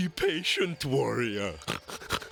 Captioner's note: snorts